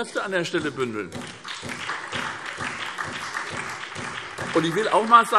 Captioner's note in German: Beifall SPD und vereinzelt DIE LINKE